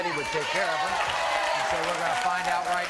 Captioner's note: applauding